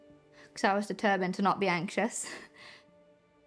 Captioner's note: chuckles